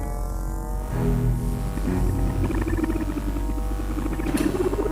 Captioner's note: scanner buzzing